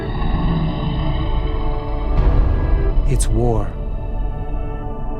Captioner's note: dragon growling